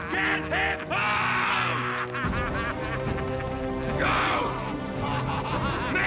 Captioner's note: laughing